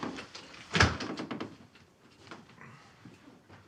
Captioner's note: door thuds